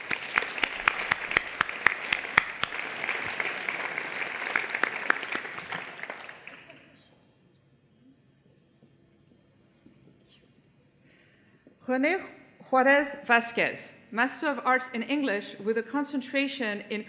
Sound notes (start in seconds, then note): 1.9 applause